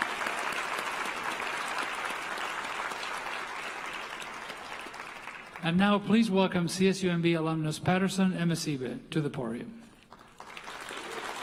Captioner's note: applause